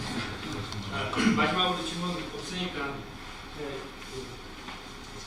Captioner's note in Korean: 목을 가다듬음